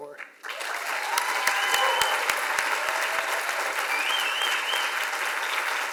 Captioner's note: audience applauds and cheers